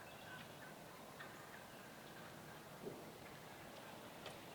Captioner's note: turkeys clucking